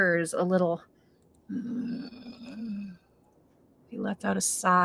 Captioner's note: Deborah groans